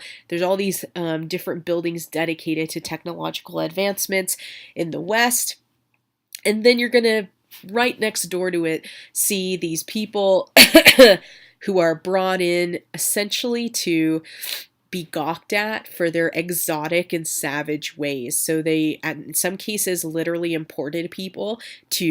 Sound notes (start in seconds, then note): 10.6 coughs